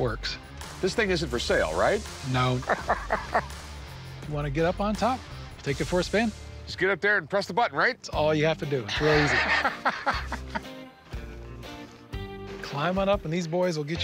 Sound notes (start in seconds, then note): 2.6 laughs; 8.9 laughs